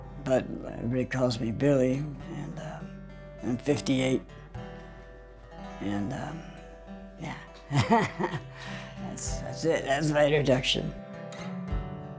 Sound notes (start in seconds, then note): 7.2 laughs